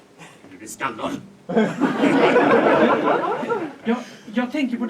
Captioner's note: audience laughs